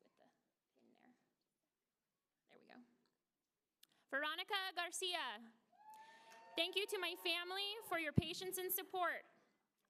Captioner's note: applause